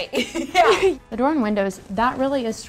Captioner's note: laughing